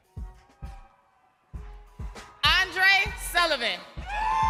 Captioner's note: crowd cheering